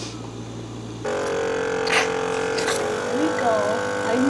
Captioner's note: loud buzz from suction